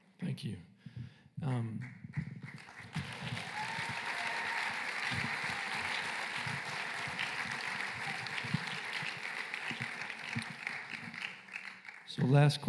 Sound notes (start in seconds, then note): 1.8 applause and cheering